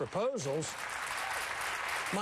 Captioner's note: applause